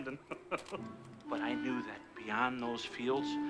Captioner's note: chuckles